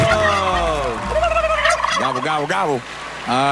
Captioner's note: gobbling